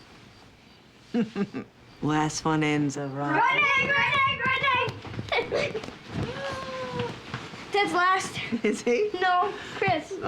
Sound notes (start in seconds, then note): 1.1 laughs; 5.2 both laughing